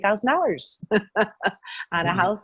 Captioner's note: laughing